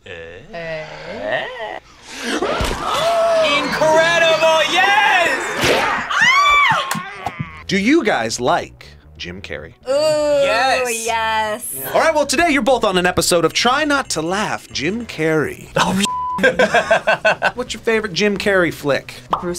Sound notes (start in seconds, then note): 0.0 gasps; 5.6 crowd; 6.2 screams; 16.4 laughs